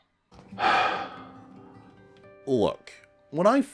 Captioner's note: sighs